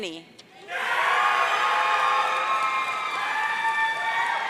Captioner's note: audience cheering